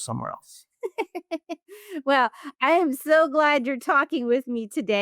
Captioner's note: laughs